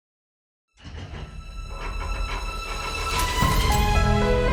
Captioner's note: metal clanking